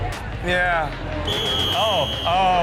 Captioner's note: whistle blows